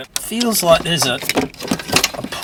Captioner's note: none